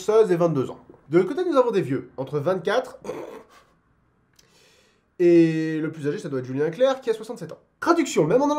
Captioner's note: chuckles